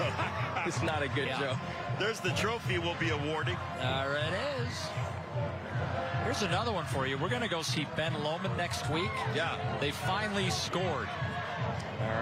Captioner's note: laughter